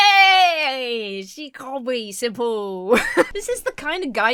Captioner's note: Emma laughs